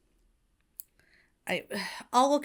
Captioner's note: Hana sighs